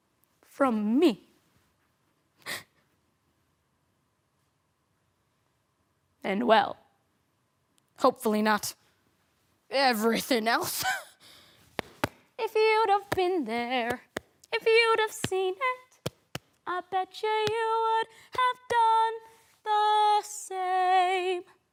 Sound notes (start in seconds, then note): 0.0 silent; 1.4 rustling; 2.3 sharp breath in; 11.6 clap, clap